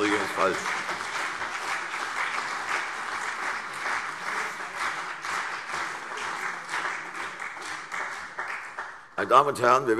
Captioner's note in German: Beifall CDU und vereinzelt BÜNDNIS 90/DIE GRÜNEN